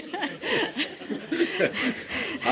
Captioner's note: laughter